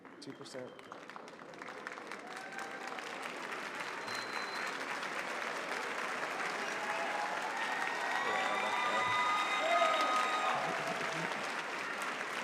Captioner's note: applause